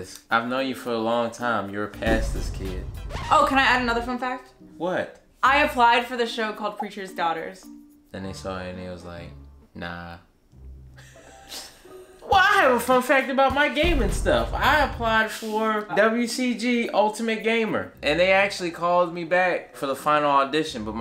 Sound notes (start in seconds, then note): 11.0 laughing